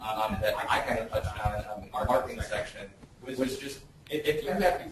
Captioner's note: distorted speech